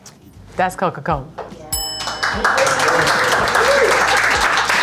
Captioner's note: crew applauds